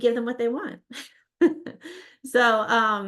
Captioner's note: laughs